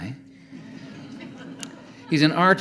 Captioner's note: audience laughing